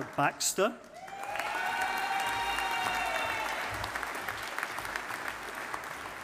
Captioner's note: audience applauding